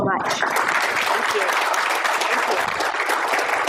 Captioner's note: applause